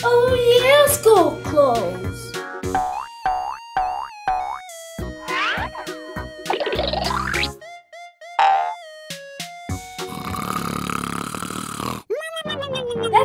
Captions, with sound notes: - Oh yeah, school clothes! (playful music continues) (loud snoring)